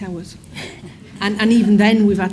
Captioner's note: audiences laughs